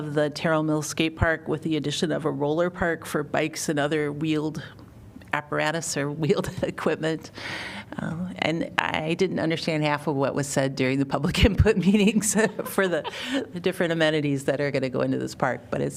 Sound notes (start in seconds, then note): 12.2 laughter